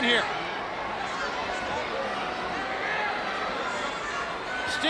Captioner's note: crowd cheering